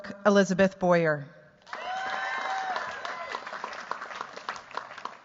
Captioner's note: cheers, applause